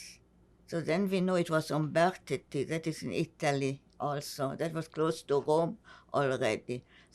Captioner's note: italian